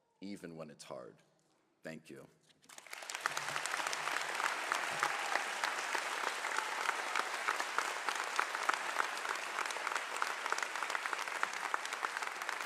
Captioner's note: applause